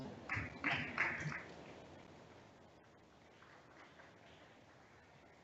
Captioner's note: audience member claps